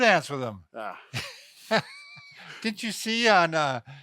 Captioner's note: scoffing